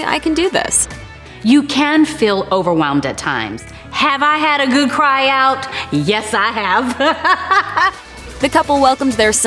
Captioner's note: laughs